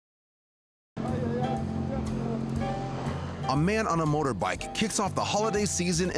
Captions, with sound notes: (motorcyclist speaks in foreign language) A man on a motorbike kicks off the holiday season